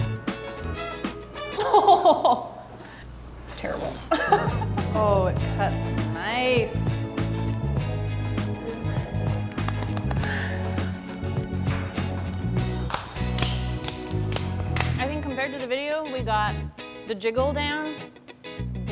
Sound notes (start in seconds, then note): 1.5 laughs; 6.8 victory music; 9.5 applauding